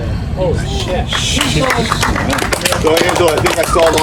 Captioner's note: audience applause